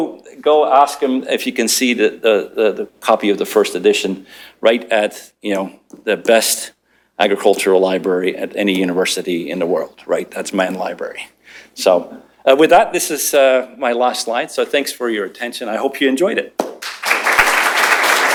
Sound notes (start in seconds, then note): 16.6 applause